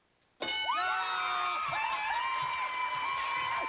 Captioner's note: cheers and applause